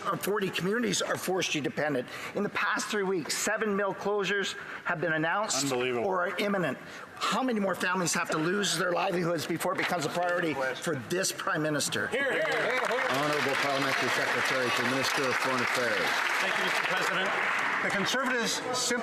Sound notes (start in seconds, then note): 14.7 some Applause